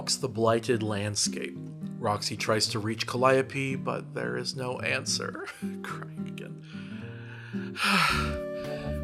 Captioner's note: crying again